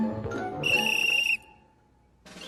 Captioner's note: whistle Blows